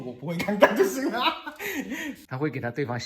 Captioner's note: laughing out loud